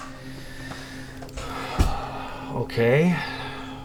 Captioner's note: sighs